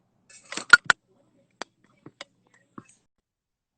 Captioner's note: clanking